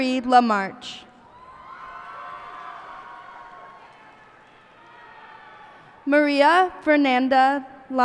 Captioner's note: cheers and applause